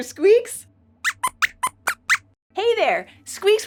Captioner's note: squeaks squeaks